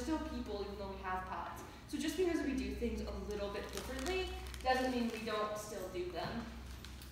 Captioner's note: crinkling noise in the background